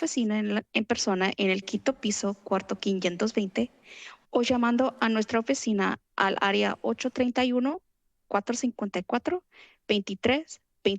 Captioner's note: foreign language